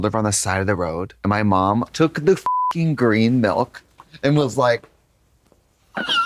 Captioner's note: beep